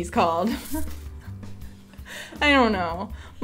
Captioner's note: laughs